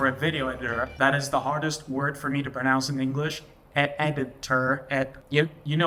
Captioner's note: enunciating